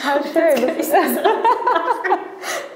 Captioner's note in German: Lachen